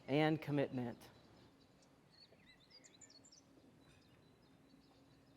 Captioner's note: birds chirping